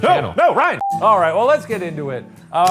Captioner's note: screen beeping